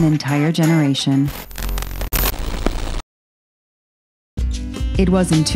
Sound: static buzzes

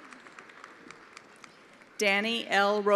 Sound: attendees applauding

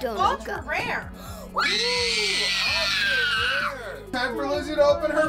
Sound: screaming

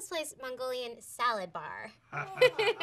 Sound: laughter

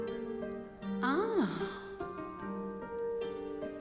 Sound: Elizabeth sighs; relaxing music

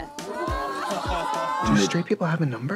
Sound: nervous laughter

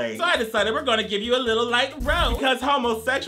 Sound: flames crackle

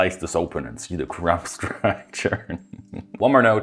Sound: laughing

